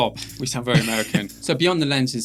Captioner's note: laughing